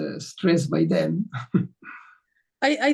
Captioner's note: chuckles